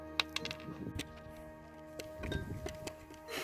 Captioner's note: rattles